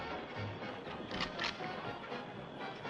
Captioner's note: rifle cocks